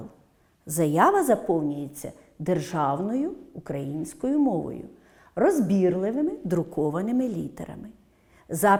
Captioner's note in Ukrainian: українською